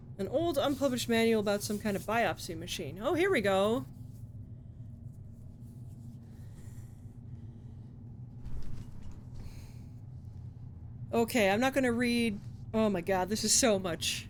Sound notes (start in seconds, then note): none